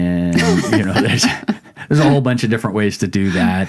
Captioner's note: laughing